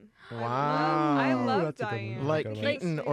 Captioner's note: wows and oohs